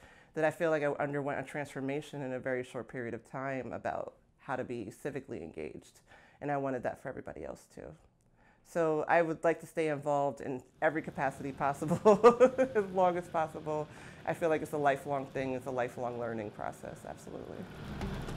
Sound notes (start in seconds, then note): 11.9 laughs; 17.8 upbeat music